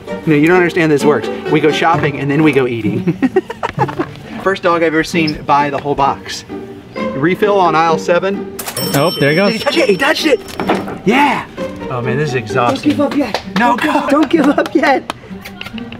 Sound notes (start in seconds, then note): 2.8 laughing; 8.6 cash register dinging; 12.6 hands clapping